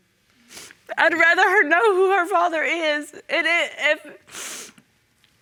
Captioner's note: stammering